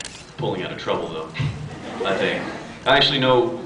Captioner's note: laughs; scattered laughs